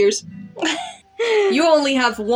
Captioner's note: snicker